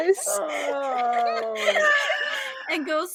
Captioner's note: all giggling